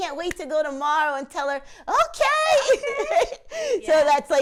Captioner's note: laughing